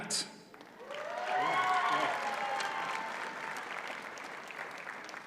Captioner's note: audience cheers and applauds